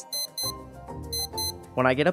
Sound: alarm beeping

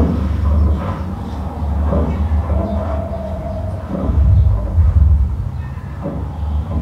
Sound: rythmical construction noises

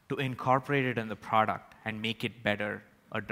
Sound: none

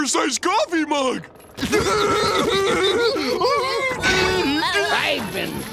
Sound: laughing

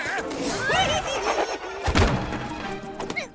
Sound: Galactoslug giggles; thud

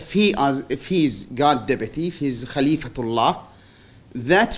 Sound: non-english

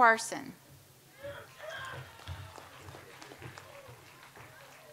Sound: audience applauds

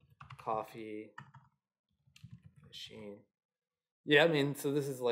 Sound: keyboard clicking

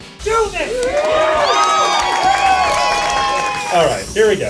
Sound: cheers

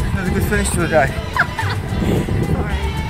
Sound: laughter

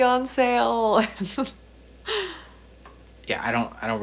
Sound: Sam chuckles

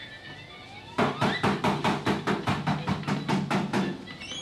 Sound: banging on door continues

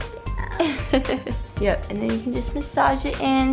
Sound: laughs

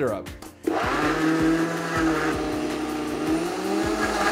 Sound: blender blending

